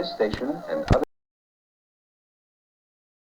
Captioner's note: audio ends